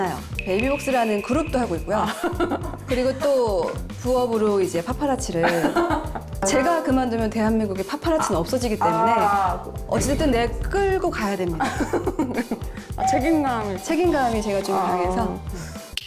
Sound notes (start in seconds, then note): 0.4 sound effect for juggling multiple gigs; 6.4 In national treasure tone